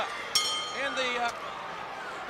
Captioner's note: bell ringing